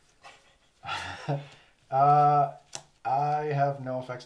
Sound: fast breathing

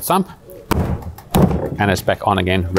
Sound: lid thumps

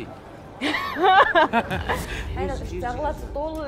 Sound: laughing

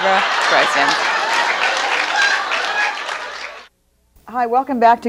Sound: audience laughs

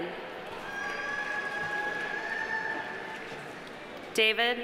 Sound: audience cheering; audience applauding

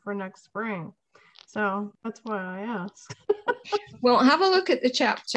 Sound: laughs

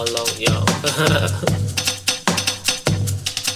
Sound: chuckle

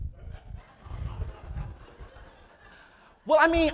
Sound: audience laughs

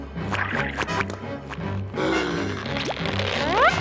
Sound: gasping

